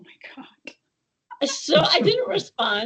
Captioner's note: laughing